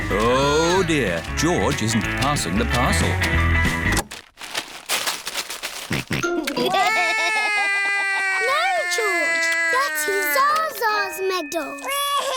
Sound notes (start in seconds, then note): 4.2 music stops; 5.9 george laughs; 6.6 cries